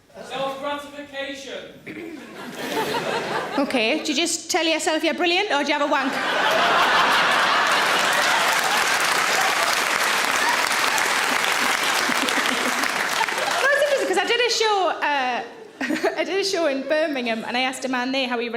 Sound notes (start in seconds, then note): 2.0 audience laughs; 6.0 audience laughs and applauds; 11.2 Sarah laughs